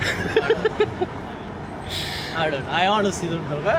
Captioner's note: laughing